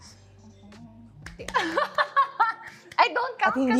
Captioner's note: clapping; carmina giggling